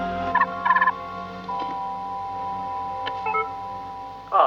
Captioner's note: interfone toca